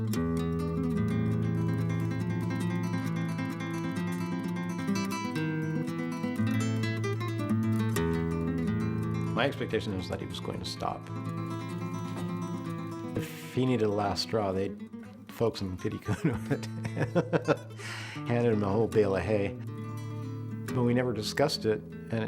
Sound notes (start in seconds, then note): 16.0 laughter